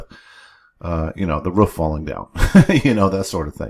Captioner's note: softly laughs